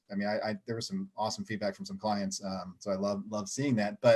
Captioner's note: chuckling